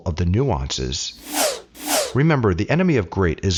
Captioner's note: air whooshing